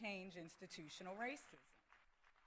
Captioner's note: applause